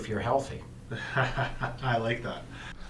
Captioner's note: chuckles